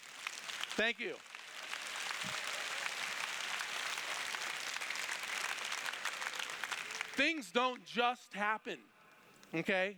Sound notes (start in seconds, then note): 0.0 applause